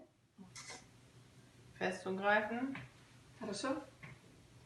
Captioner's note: speaking russian